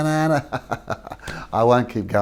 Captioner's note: laughs